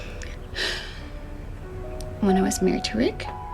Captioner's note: sighing